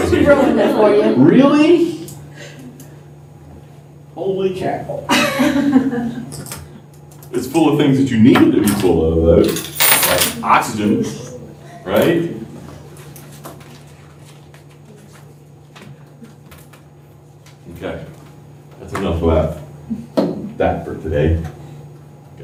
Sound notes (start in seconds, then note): 1.2 laughter; 5.0 laughter